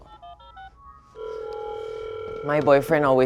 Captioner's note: phone ringing